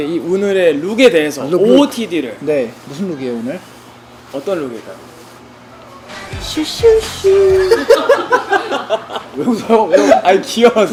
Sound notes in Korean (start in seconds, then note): 7.4 과 스태프들의 웃음